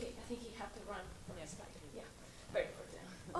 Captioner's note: voiceover